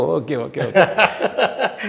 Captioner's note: laughs